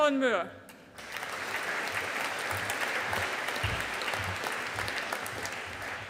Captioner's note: audience applauding